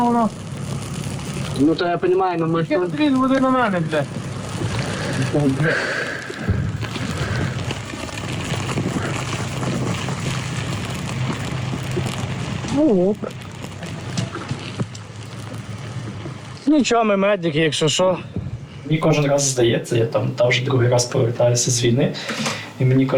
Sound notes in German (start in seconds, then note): 6.4 Schussfeuer im Hintergrund